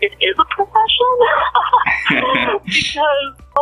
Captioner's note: laughs